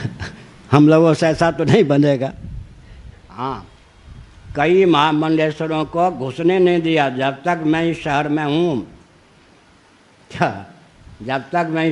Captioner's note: laughs